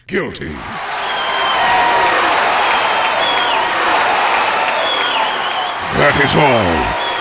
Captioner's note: cheering!